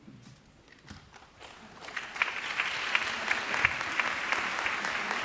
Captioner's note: applause